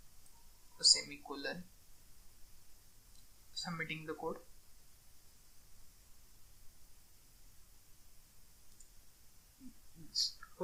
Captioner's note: clicking